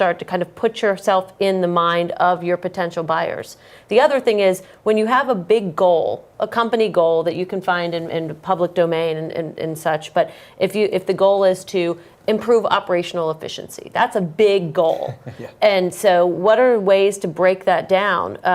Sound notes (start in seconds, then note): 15.0 laugh